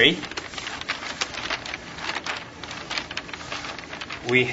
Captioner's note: paper rustling